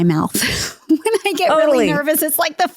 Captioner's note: laughing